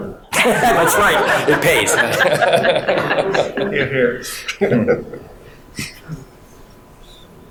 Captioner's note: all laughing